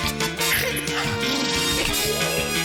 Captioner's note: snorts; blubbers lips; gasps